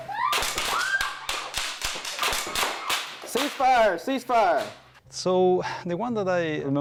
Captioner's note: gunshots